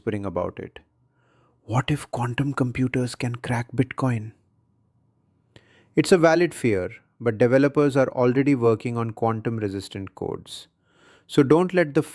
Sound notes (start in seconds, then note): 3.0 whispers